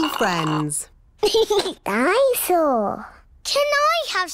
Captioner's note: giggles